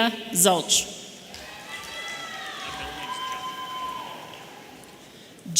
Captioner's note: audience cheering